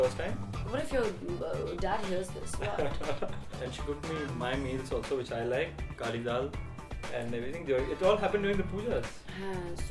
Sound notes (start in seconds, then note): 2.4 laughing